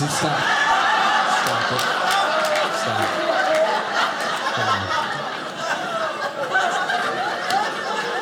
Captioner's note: audience laughing